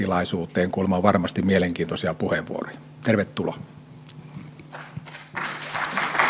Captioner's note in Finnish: Yleisön taputuksia